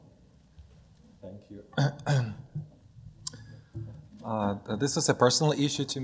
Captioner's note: clears throat